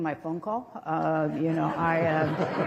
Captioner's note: laughter